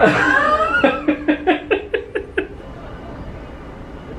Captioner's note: laughs